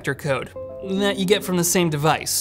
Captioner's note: notification dings